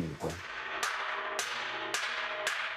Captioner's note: whirring, hammering